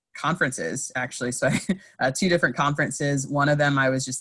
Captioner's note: laughs